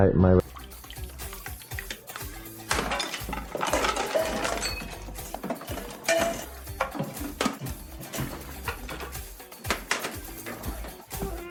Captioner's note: ambient noises falling over etc